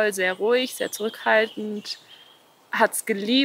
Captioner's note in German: Vogelzwitschern